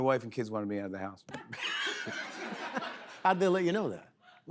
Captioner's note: laughter